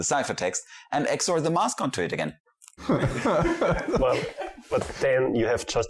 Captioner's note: lots of laughter